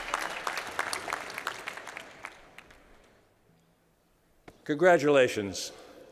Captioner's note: crowd cheering